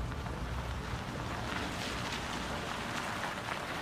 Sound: car approaching

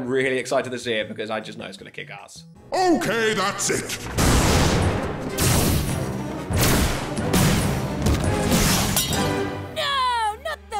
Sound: booming voice

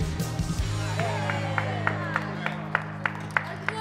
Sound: cheers and clapping

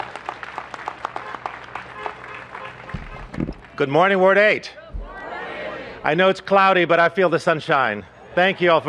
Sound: applause

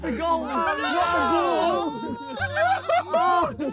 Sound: players laugh

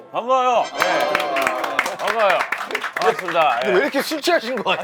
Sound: clap

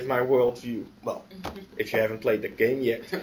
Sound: laughter

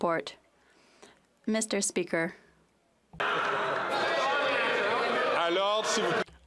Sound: some Applause

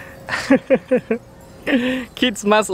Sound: laughs

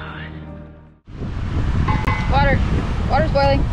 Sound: wild howling

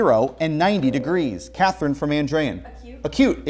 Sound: beeping

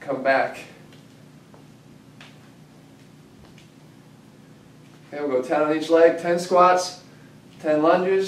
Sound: pause

